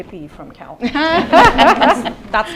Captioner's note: laughter